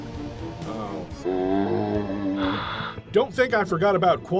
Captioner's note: zombie groan